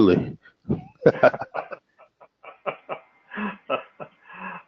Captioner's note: laugh